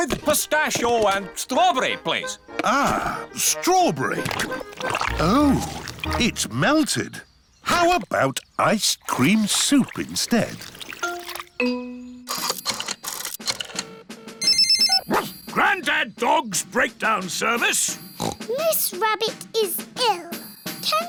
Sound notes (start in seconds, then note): 13.6 line rings; 15.2 barks; 18.1 snorts